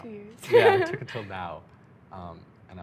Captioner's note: laughing